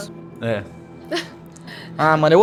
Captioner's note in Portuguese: risos